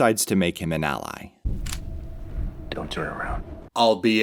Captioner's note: click of a taser